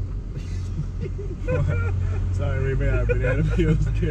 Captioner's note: laughing